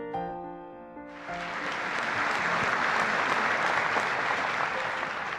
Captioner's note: audience applauding